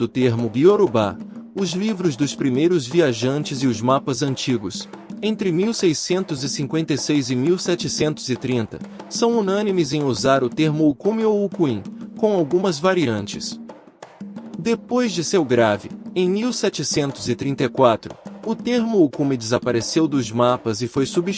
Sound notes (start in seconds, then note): 11.2 Yoruba